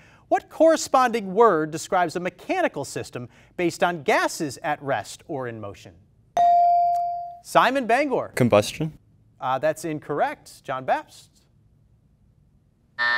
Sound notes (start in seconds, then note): 6.4 ding